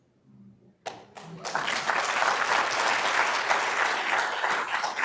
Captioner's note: crowd applauding